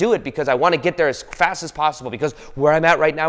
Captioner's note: fingers snap